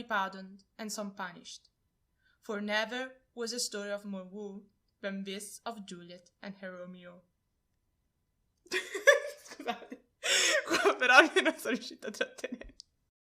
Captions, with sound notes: pardon'd and some punished; for never was a story of more woe than this of Juliet and her Romeo. [laughing]